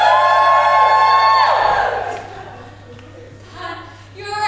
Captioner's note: audience cheers